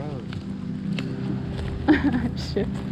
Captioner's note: laughing